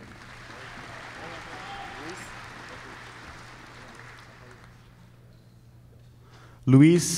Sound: applause

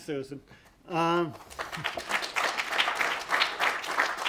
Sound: applause

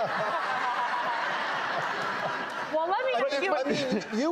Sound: laughter

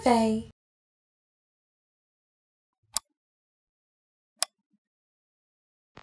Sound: click

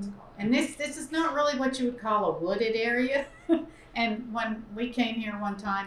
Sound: laughs

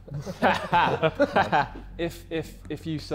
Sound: Sidemen laughing

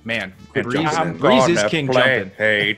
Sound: laugh

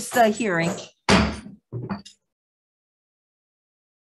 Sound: gavel bangs

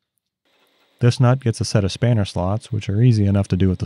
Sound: tool whirs

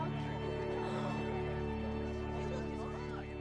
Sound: ALL CHATTERlNG

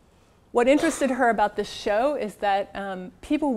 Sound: cough

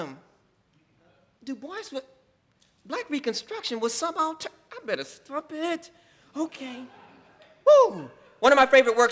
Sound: laughing

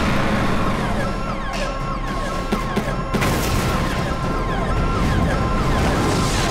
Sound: sirens blaring

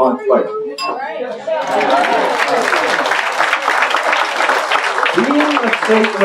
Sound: applause

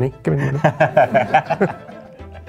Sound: laughter

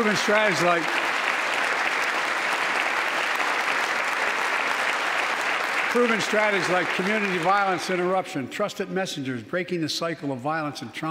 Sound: applause

